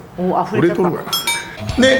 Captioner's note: laughs